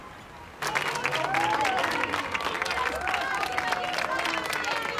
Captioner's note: clapping and cheering